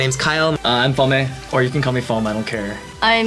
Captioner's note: foam